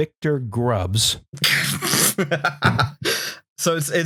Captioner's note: laughs, spluttering